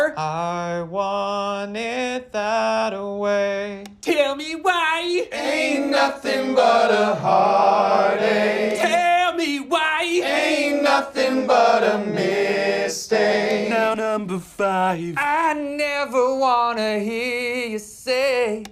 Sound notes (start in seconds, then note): 3.8 click